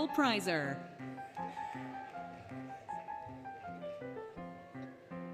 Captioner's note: applause, Cheering, Music